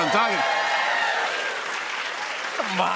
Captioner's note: cheers and applause